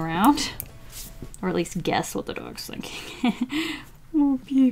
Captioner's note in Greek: Γέλια